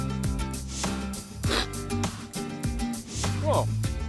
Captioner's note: sniffs